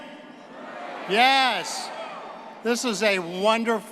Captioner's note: crowd cheering